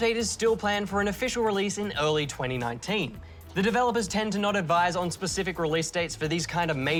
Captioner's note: none